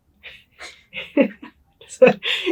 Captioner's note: laugh